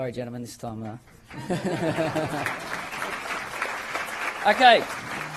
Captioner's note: applause